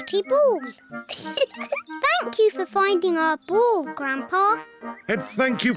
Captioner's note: giggles